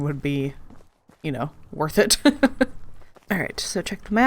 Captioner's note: laughs